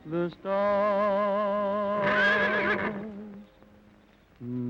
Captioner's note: horse whinny; humming